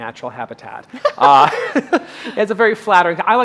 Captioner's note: laughing